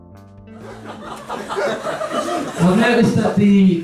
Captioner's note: audience laughs